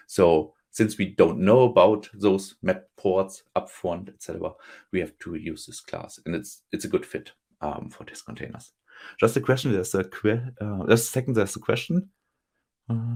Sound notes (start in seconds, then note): 12.9 hums